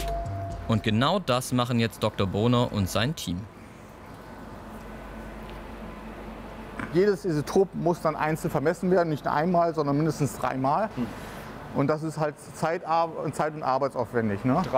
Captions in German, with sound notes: Und genau das machen jetzt Dr. Boner und sein Team. (Leises Surren) Jedes Isotop muss dann einzeln vermessen werden. Nicht einmal, sondern mindestens dreimal. Und das ist halt zeit- und arbeitsaufwendig, ne?